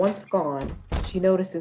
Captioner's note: door closes